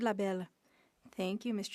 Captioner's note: speaking French